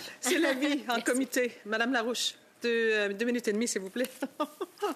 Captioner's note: speaking French